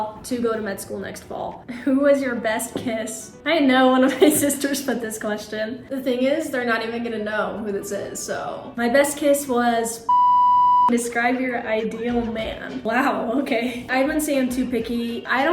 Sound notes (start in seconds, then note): 10.0 beep